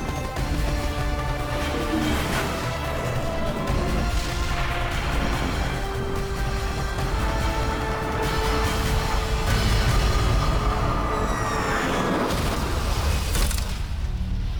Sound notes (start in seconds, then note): 0.4 gunfire; 8.2 explosion; 11.6 city sounds